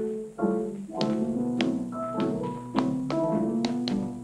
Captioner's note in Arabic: صوت نقر الأحذية